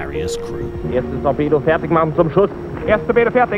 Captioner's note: German spoken audio